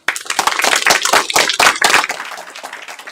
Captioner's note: applause